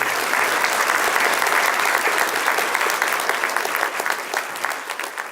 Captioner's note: clapping